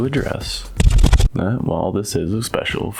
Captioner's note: record Scratch